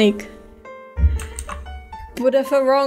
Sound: somehow hits the mic while pressing CTRL Z

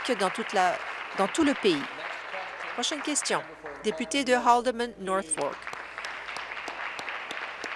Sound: applause

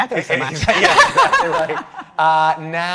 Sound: everyone laughing

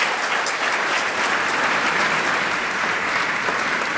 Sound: applause

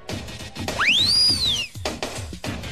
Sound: party whistle

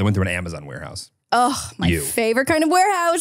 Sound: sighs

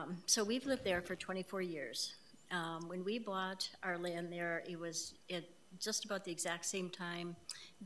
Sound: none

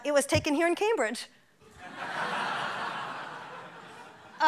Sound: laughing

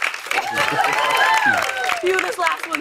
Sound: cheers and applause

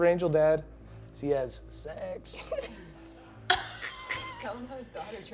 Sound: laughing

